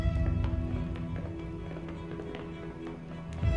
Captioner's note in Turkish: Ayak Sesleri